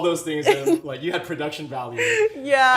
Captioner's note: laughing